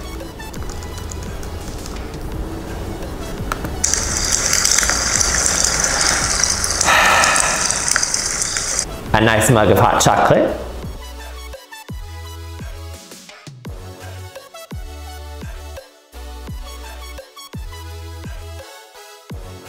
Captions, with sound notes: (firewood burning) A nice mug of hot chocolate, (upbeat music) (upbeat music)